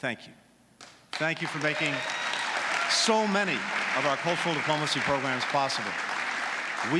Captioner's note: applause